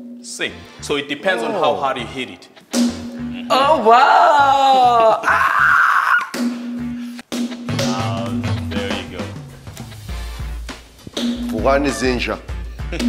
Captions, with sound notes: See, so it depends on how hard you hit it. -Oh wow, ah. -[hammer thuds] -Wow, there you go. -[hammer thudding] [speaking in foreign language]